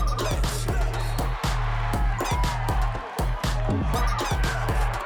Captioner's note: cheering; upbeat music